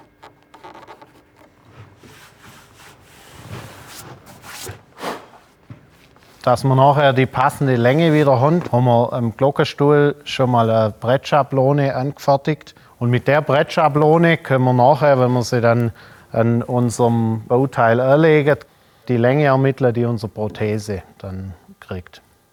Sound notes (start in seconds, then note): 4.9 blowing